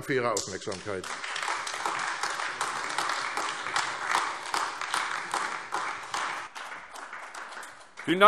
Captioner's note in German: Beifall AfD